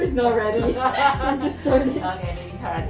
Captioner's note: laughing